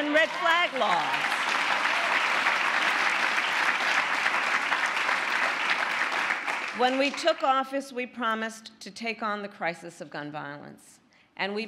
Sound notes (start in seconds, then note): 2.9 cheering; 4.0 applause